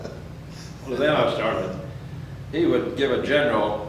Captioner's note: laughs